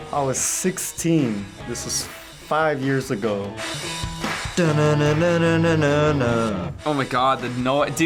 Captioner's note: hums along